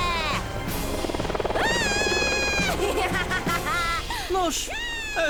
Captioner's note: laughing